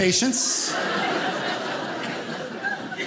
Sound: audience laughing

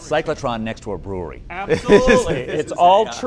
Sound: laugh

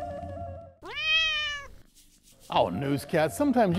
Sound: cat meows

